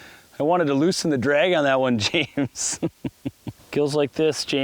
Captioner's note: laughs